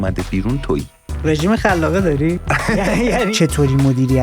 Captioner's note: laughs